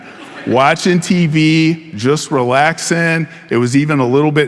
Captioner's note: audience laughing